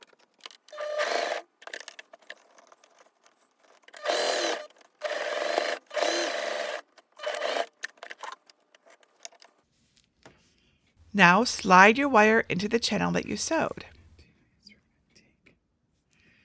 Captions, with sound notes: (sewing machine whirring) Now, slide your wire into the channel that you sewed.